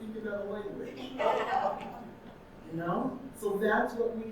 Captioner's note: audience laughing